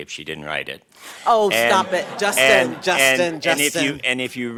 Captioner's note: laughter